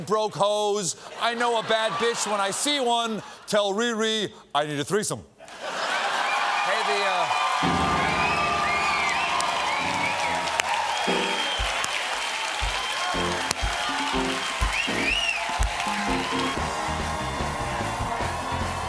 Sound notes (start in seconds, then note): 7.3 cheers and applause; 7.6 piano riff